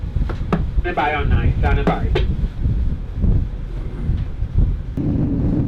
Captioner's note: garbled voice on radio